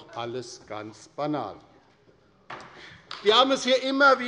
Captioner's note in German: Beifall bei der LINKEN